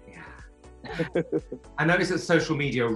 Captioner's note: chuckling